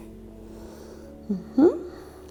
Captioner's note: breathing